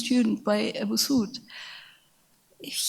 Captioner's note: speaks in a foreign language